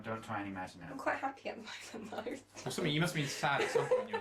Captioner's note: laughing